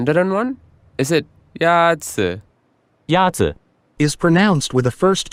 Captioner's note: voice of male speaking Mandarin